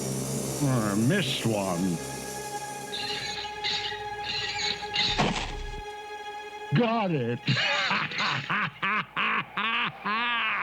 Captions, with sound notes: I missed one. [WHEEL CREAKING] Got it. [GRINCH LAUGHING]